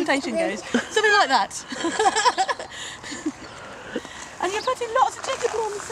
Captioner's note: laughter